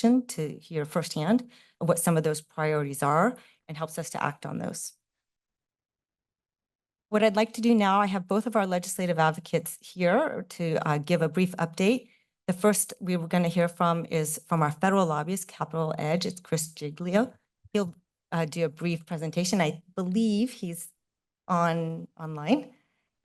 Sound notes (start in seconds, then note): 5.0 pause